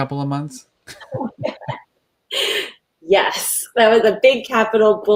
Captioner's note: laughing